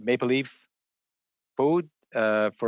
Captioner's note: speaking French